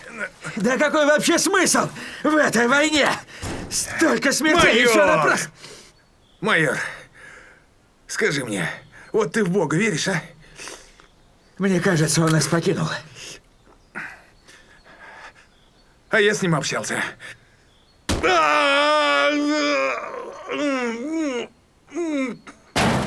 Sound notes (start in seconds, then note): 18.2 cry